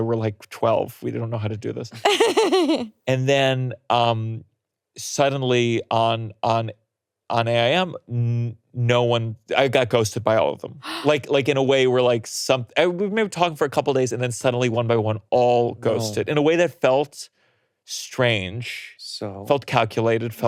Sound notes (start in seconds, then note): 1.9 laughing; 10.8 gasps